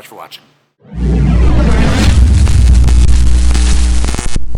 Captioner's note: static